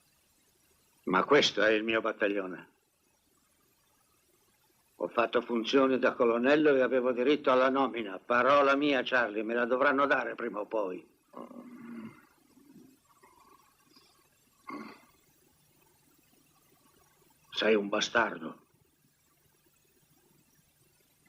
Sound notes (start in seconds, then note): 11.3 Charlie shoring